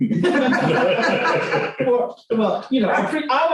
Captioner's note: laughter